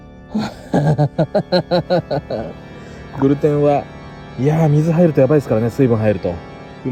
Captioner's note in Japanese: 絶望の笑い